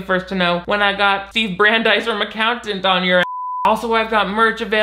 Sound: beep

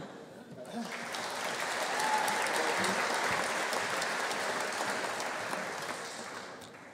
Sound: audience applauding; audience cheering

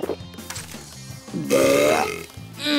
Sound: belching

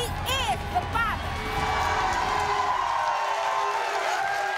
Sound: crowd cheering

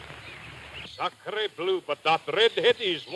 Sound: speaking in French

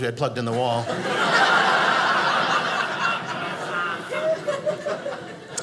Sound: audience laughing

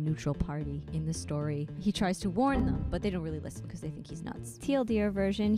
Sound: windows error noise

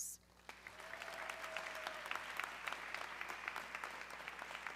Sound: audience clapping

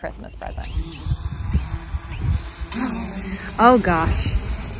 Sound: drone whirring

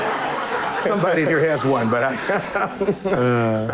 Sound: laughter

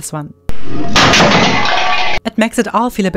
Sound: crashing sound

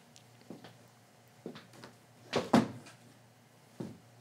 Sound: footsteps

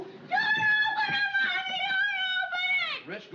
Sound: screams indistinctly

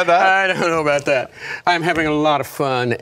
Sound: laughter

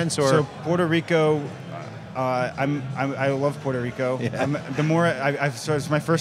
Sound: laughs

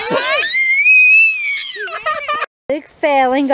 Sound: crying

